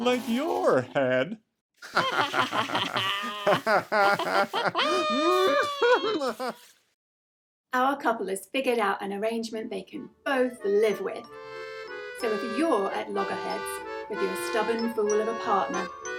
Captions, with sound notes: Like your head! [ both laughing hysterically ] Our couple has figured out an arrangement they can both live with. So if you're at loggerheads with your stubborn fool of a partner,